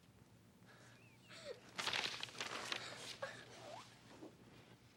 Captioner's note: Caddie crying